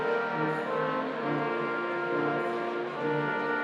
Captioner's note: none